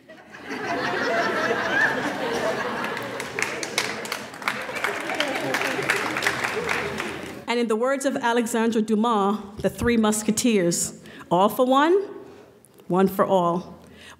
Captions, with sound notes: (laughing) (clapping) And in the words of Alexandre Dumas, The Three Musketeers, "All for one, one for all."